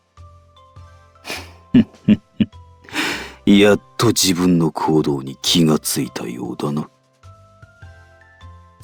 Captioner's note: chuckle